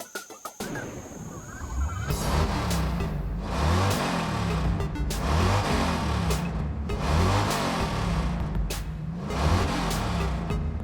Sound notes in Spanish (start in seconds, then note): 1.2 arranque de auto de carrera